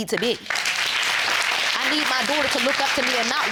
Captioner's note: audience applauds